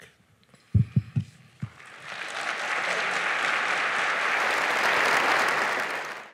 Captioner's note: applause